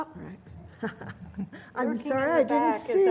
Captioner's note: laugh